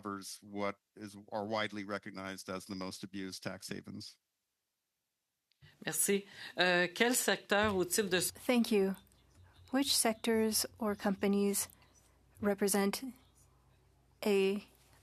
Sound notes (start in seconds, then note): 9.0 speaking French